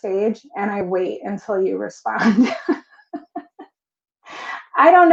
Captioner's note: laughs